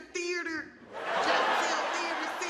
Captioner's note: audience laughing